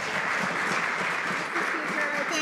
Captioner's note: some Applause